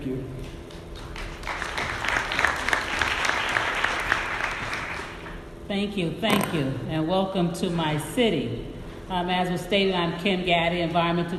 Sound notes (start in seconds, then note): 1.0 audience applauding